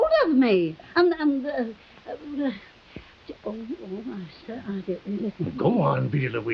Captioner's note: Veta mumbling